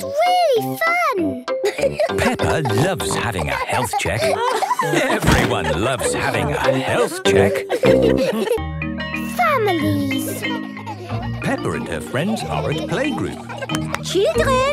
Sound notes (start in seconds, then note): 8.5 school bell ringing; 13.6 clapping